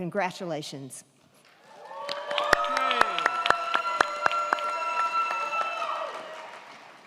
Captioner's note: crowd clapping; crowd cheering